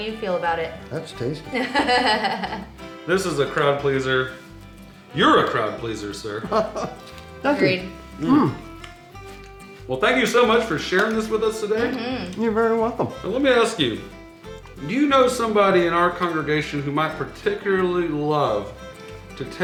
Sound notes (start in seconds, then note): 1.5 laughs; 6.3 laughs